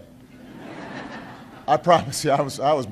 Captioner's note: laughter